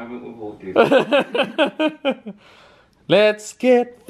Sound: laughs

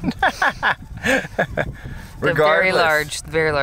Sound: laughs

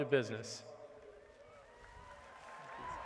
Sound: applause

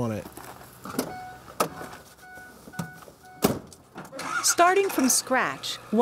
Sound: car beeping/door closes/ engine starts

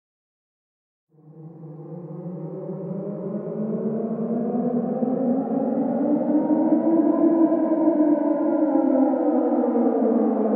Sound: sound of haunting siren

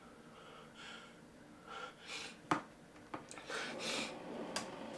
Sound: heavy breathing

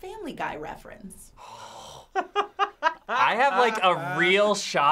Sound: laughing

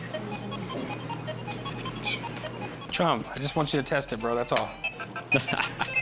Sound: scoffs; laughs

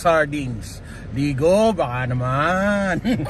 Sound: laugh

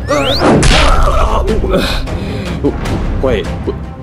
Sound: both grunting; dramatic music; Mario groaning; gasping

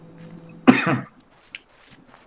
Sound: coughs

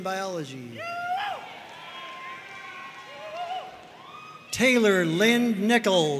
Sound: audience cheering and applauding

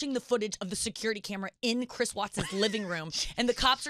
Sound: laughing

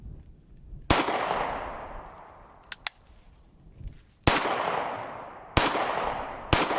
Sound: gun fires

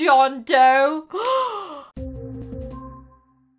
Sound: gasp

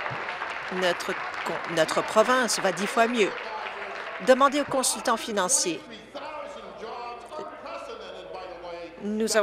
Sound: applause

